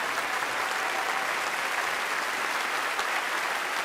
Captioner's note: applauding